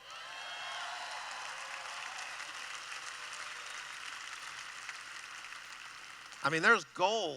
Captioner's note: cheering